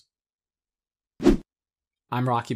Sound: air wooshes

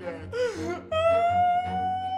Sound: crying

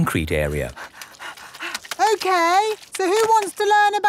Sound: panting

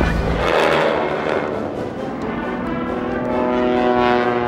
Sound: airplane engines buzzing

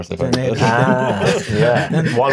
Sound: laughs

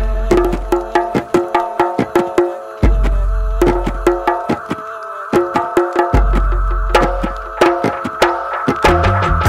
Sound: "why" echocing

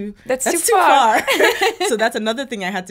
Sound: both laughing

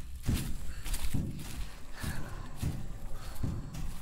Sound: breathing

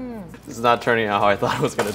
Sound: laughs

